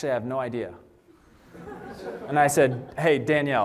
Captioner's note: laughter